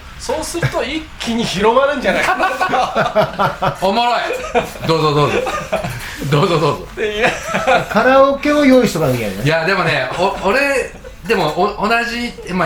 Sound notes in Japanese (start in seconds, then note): 3.5 笑い; 7.5 笑い